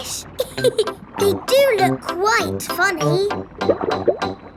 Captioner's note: laughs